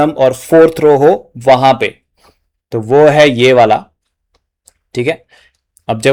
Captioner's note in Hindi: नाक से की जाने वाली आवाज़